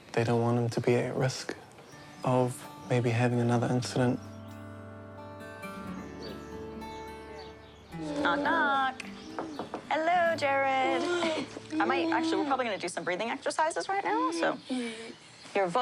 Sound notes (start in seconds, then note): 9.3 knocking; 10.1 laughs